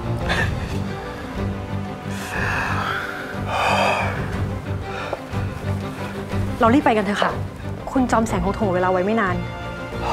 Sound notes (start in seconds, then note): 0.3 groaning with Pain; 2.0 exhausted Breathing